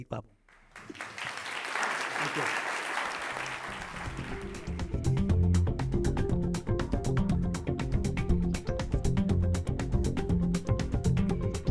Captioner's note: applause